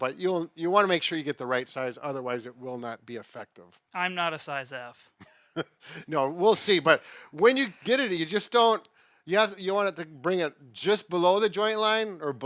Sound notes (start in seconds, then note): 5.2 laughs